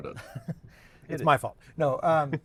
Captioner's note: laughs